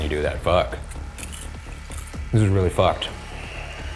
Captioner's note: popcorn crunching